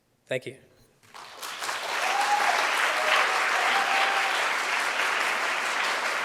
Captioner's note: audience cheering and applauding